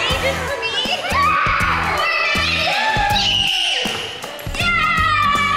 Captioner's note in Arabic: الأطفال يصرخون ويهتفون